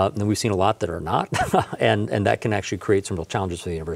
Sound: chuckles

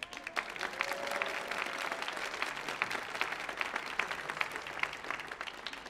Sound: audience cheering and applauding

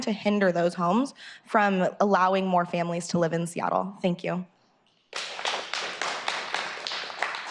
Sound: applause

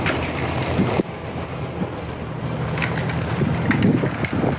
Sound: vehicle engine humming; wind whooshing; gravel rustling

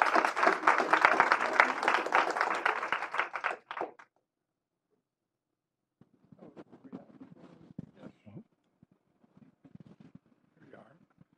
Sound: applause

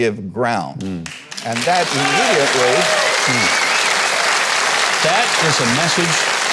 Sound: audience applauding

